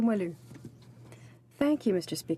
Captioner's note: speaking in french